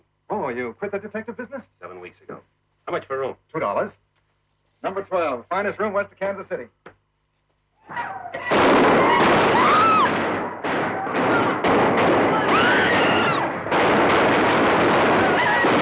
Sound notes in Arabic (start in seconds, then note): 8.5 صوت البنادق; 8.8 يصرخ الحشد; 9.5 صراخ السيدات